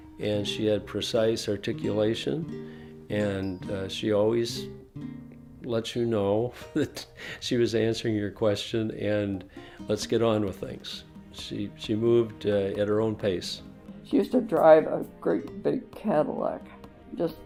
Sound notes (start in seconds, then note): 6.6 chuckles